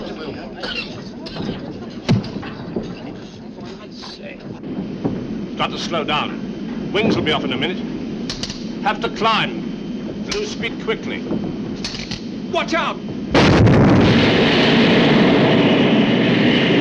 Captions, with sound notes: (people chattering) Got to slow down. Wings will be off in a minute. Have to climb, loose speed quickly. - Watch out! (wind blowing hard)